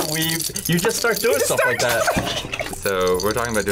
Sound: laughs

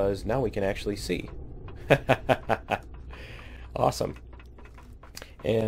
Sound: laughs

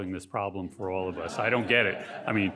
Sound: audience laughing

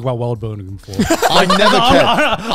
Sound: all laughing

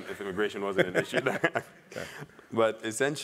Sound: laugh

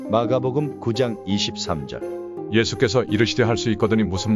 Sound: voiceover

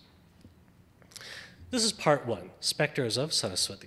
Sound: speaks foreign language

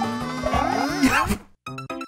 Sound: chuckles

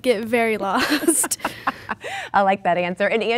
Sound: laughing

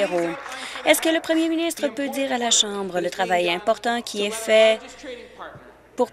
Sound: applause

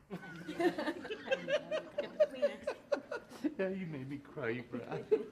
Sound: people laughing

